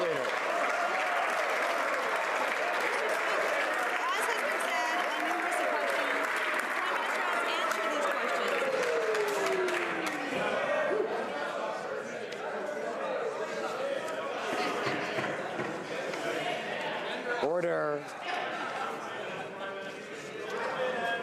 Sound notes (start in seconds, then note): 1.8 some Applause